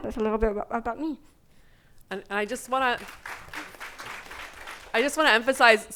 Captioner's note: audience applauding